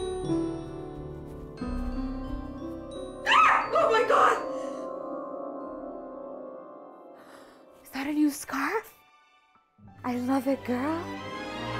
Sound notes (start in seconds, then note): 3.2 screams; 4.7 unsettling music; 11.5 lighthearted music